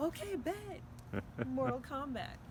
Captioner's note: chuckling